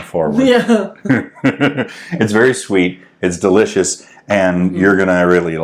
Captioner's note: laughing